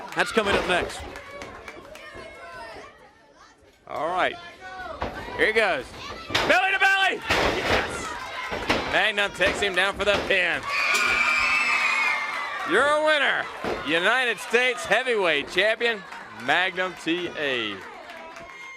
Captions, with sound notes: RHODES. THAT'S COMING UP NEXT. >> [CROWD CHATTER] >> ALL RIGHT. HERE HE GOES, BELLY-TO-BELLY. MAGNUM TAKES HIM DOWN FOR THE PIN. >> [CROWD CHEERING] >> YOUR WINNER, UNITED STATES HEAVYWEIGHT CHAMPION, MAGNUM T.A.